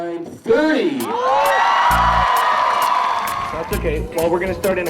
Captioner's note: audience cheering and applauding